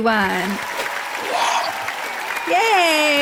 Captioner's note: applause